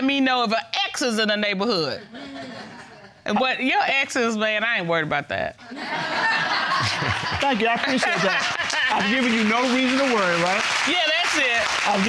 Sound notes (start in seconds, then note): 1.8 audience titters; 5.7 audience laughs; 6.8 chuckles